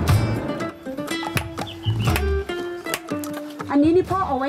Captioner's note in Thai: เสียงตีเหล็ก